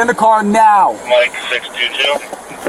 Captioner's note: radio chatter